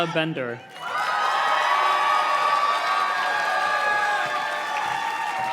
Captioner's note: audience cheers and claps